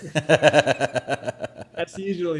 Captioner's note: laughs